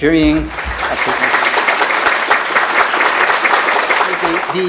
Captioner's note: applause